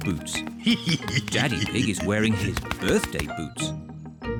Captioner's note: laughs